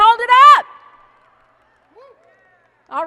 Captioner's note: applause and cheering